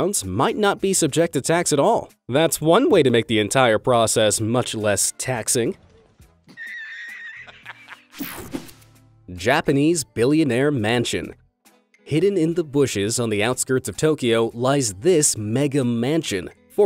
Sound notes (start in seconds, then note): 6.5 laughs